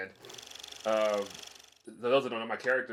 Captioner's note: reel flickering